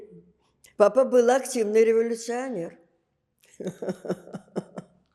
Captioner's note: laughing